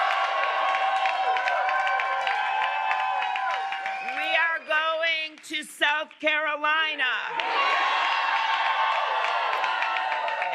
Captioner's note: cheers and applause